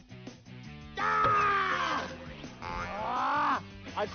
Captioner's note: screams